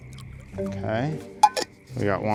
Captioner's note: cap clicks